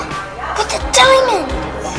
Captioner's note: assistant gasps